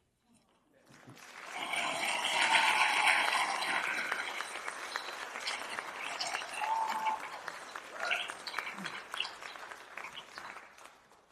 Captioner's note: applause